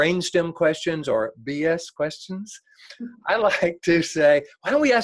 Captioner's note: laughs